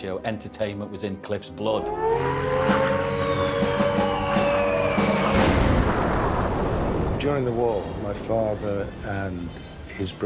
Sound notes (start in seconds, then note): 1.7 klaxon siren blows; 2.6 whistle of bombs dropping; 7.5 loud explosion